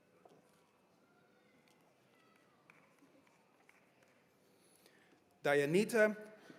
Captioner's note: cheers and applause